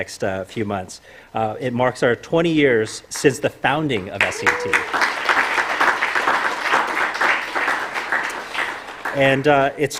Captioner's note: applause